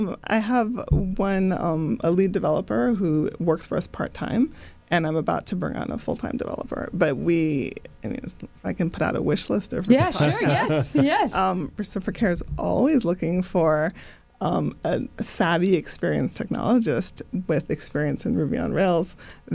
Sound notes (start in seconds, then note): 10.0 laughter